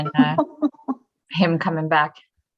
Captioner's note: laughs